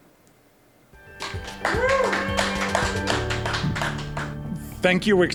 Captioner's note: crowd applauding